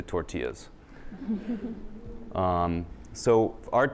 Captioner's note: laughter